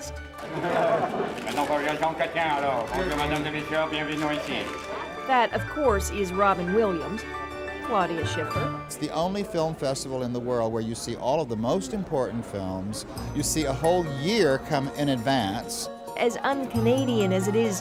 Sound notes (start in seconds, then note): 0.4 laughter; 4.4 imitating Jean Chrétien